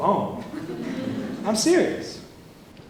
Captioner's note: laughter